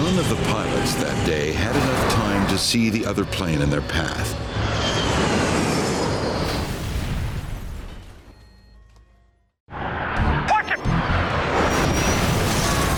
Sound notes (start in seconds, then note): 4.7 aircraft exploding